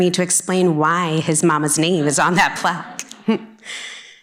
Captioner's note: chuckling